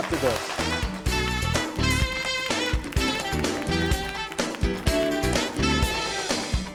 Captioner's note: audience applauding; bright upbeat music